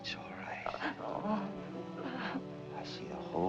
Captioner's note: sobbing continues